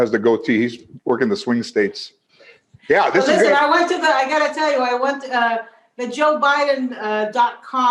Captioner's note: laughter